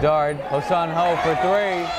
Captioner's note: yelling